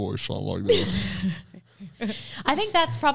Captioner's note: laughs